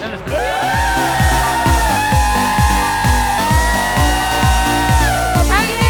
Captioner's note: cheering